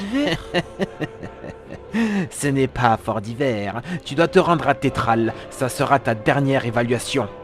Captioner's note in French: Rire